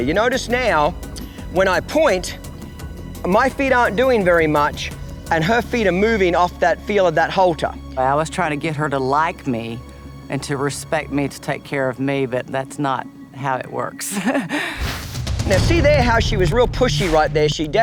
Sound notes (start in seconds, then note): 14.0 chuckles